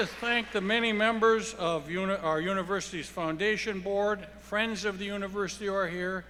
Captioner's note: applause